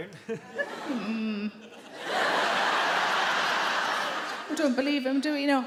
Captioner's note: audience laugh